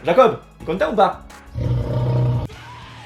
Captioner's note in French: Rugissement de lion